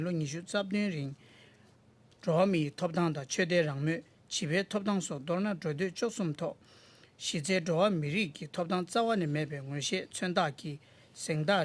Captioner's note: speaking Alternate Language